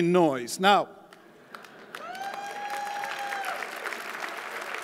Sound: audience applauding

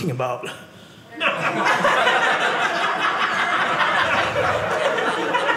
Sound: audience laughing

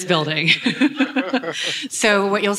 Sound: laughing

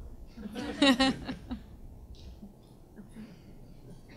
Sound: panel chuckles

